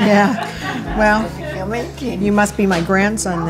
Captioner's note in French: rires